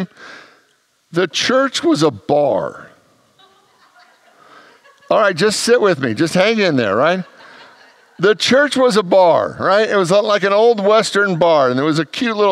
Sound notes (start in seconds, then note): 2.5 congregants laugh